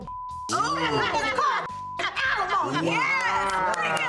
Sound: beep

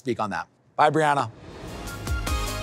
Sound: transition whooshes

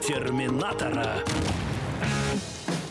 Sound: explode

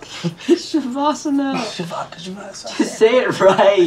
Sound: laughs

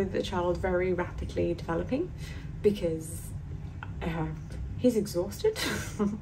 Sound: laughs

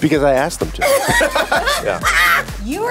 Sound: laughs

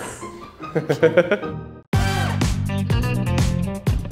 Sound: interviewer laughs; upbeat music

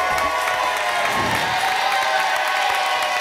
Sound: applause and cheering cont; whoosh; applause and cheering cont

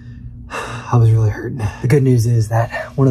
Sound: sighing

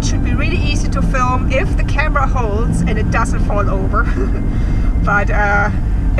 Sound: laughs

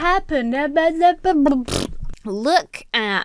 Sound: splutters

